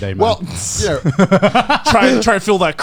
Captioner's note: laughing